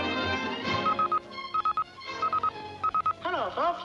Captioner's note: telegraph beeping